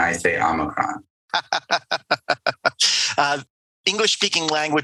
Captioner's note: laughing